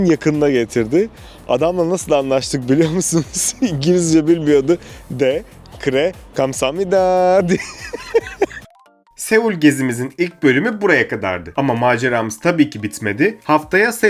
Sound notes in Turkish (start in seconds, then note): 7.4 kahkaha